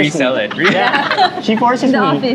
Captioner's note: laughs